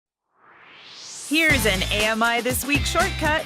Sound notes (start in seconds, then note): 0.2 swoosh